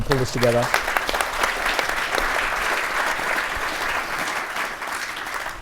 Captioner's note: audience applauds